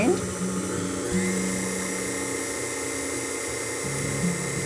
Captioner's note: blender whirling